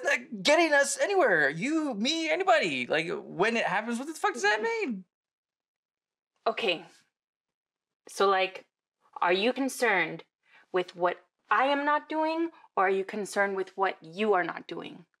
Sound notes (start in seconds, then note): 5.3 she stammers